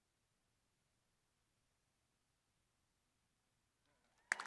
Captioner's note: crowd applauding